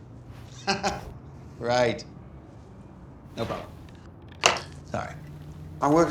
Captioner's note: laughs